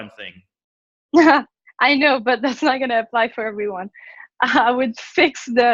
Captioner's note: laughs